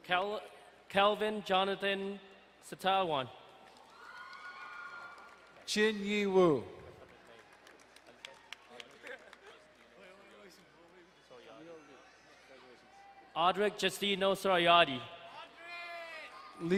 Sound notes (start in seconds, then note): 3.8 distant cheering; 6.7 crowd clapping